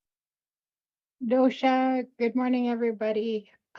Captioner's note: speaks in foreign language